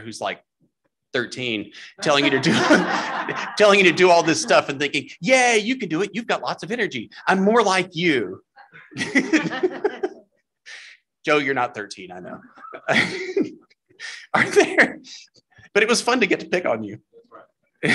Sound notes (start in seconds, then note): 8.5 laughter